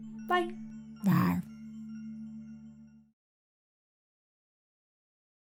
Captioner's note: monster growling